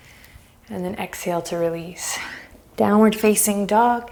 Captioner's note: deep breaths